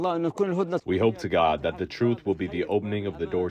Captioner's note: through translator